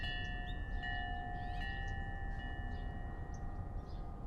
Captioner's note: chimes ringing